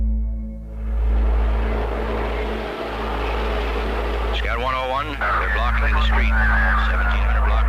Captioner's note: chanting